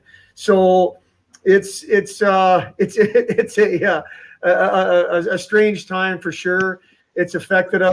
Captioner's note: laughter